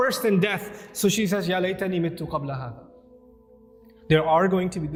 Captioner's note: Arabic